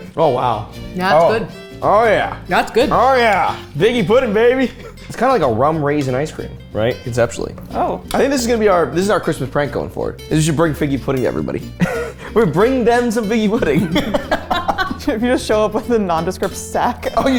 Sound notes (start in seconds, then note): 13.6 both laugh